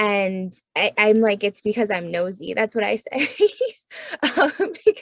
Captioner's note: laughs